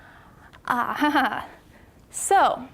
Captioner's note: laughing